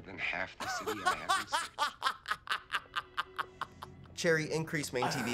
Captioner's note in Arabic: يستمر الضحك